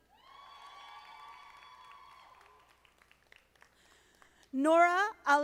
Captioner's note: audience applauding